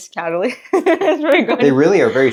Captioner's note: laughing